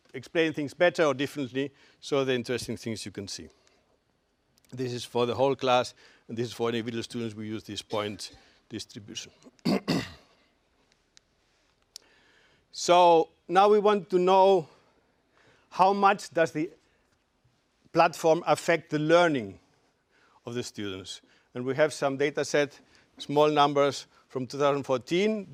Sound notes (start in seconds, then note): 9.4 cough